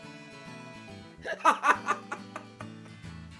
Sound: laughs

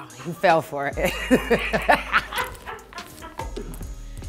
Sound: laughing

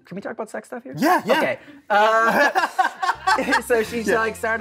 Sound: laughter

